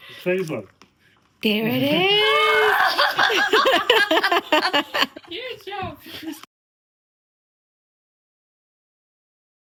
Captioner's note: cries out in delight